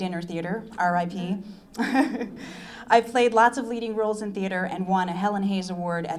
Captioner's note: laughs